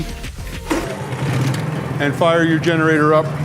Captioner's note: engine starting up